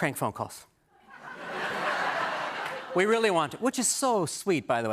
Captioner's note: laughter